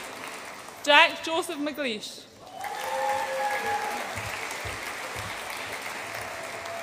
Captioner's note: audience applauds and cheers